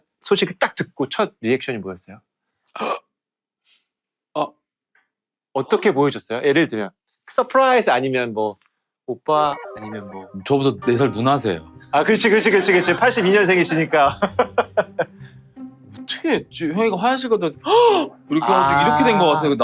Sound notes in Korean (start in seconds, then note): 9.6 흥미진진한 음악; 12.5 웃음